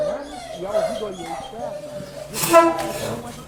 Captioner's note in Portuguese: Cachorro chorando ao fundo